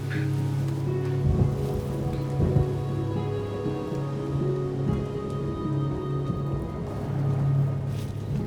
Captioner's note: thunder rumbling in distance